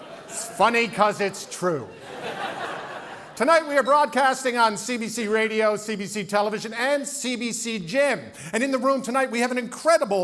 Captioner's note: laughter